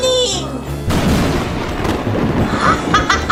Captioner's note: lightning strikes; laughs evilly